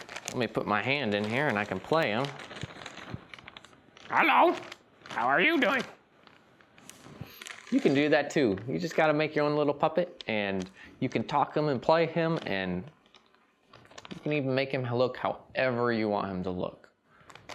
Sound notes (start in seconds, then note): 3.6 silly Voice